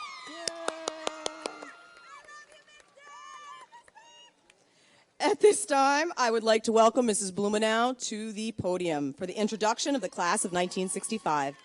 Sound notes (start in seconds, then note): 0.0 audience cheers and applauds; 2.0 woman shouts